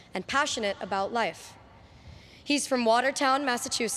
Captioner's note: none